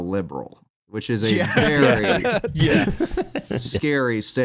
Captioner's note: laughter